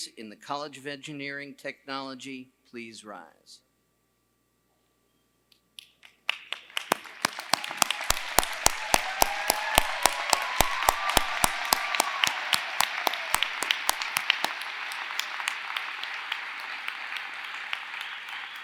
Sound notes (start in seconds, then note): 3.7 applause